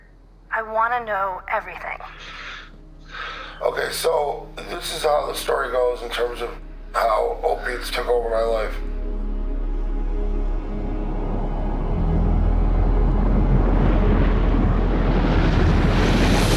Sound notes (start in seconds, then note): 2.0 sigh